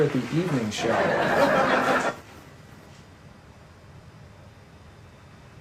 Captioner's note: audience laughing